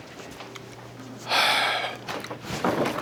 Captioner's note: Dwight sighs